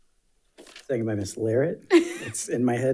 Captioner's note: laughs